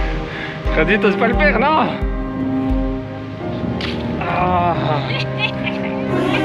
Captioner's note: laughing